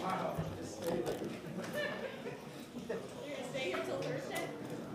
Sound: laughter

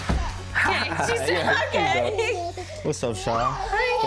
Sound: laughs

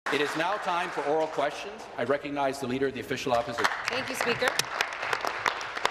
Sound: applause

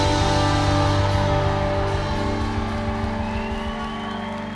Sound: audience cheering

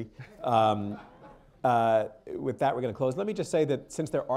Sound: laughter

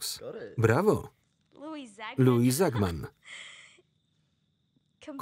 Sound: laughs

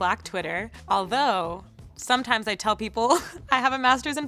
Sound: laughs

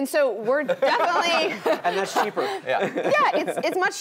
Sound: laugh

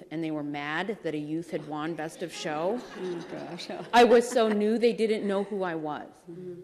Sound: laughter

